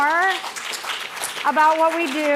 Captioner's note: applause